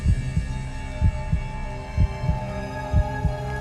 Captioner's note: heart beating